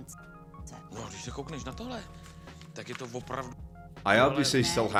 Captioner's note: audio in Czech